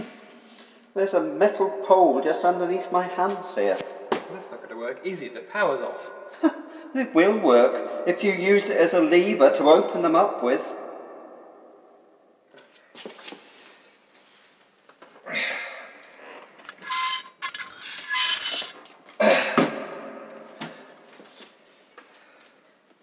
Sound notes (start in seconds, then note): 16.6 scraping metal noises